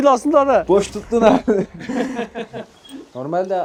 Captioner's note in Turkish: Gülüşmeler